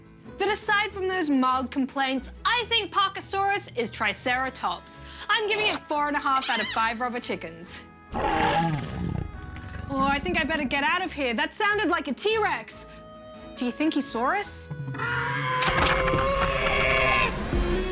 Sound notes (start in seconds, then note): 8.1 roar!; 14.8 dinosaur screeches